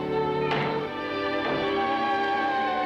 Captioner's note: door closes